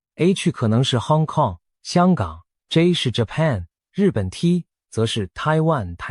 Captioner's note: Korean